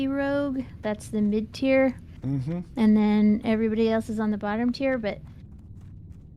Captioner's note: none